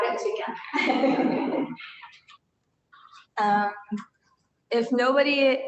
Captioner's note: laughter